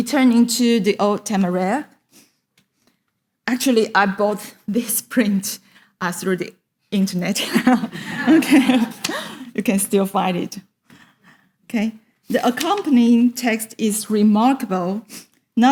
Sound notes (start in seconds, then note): 7.6 audience laughs